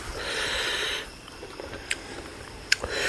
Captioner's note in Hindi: अचानक ज़ोर से सांस लेने की आवाज़